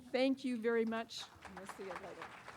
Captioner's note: applause